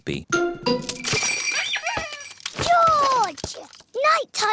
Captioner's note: bells ring and toys squeak